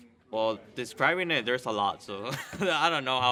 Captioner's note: risas